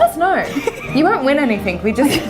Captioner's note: laughs